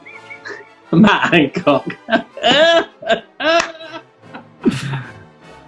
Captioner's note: laughing